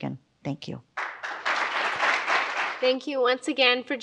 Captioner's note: audience applauds